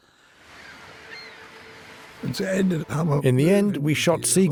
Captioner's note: birds squawking